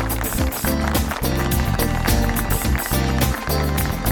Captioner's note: audience applauds